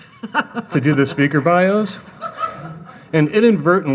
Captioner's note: audience laughing; laughing